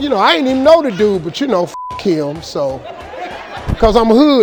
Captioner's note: beep